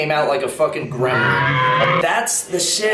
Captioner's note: animal growling